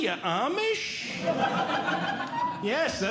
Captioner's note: audience Laughing